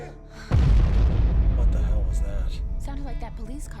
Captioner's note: explosion